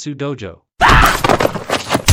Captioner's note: exclaims